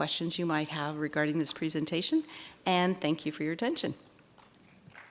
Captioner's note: applause